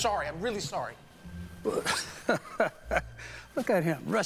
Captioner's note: chuckles